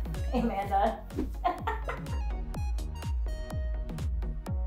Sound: laughing

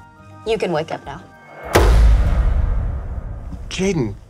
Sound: echoing metallic thump

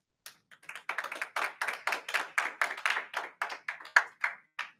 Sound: audience applauding

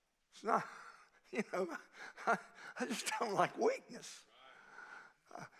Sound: laughs

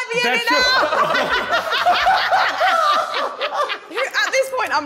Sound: all laughing

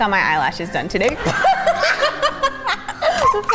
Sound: laughs

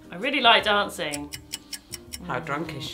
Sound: clock ticking

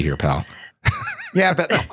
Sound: laughter

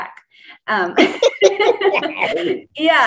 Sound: laughs

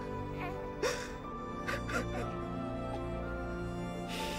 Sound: Andre crying

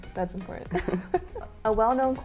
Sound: laughs

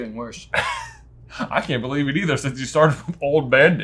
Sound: chuckles

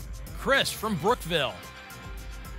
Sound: none

